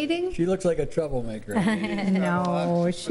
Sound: laughter

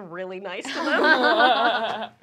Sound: group laughs

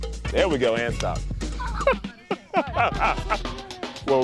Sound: laughter

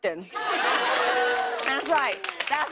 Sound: laughter

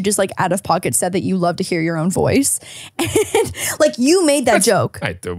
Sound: laughs

